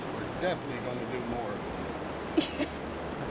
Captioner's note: laughing